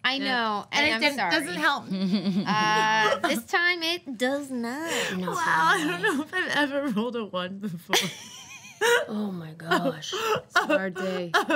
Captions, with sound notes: - I know, and I'm sorry. - And it just doesn't help me. - This time it does not. - Wow. I don't know if I've ever rolled a one before. (laughing) - Oh my gosh. It's a hard day.